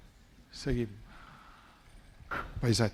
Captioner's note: speaking spanish